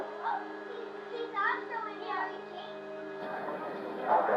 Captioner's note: children talking in background